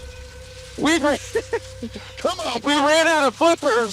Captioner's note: Alan laughing